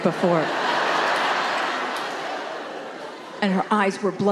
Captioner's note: crowd laughing